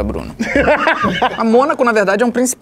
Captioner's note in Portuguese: risadas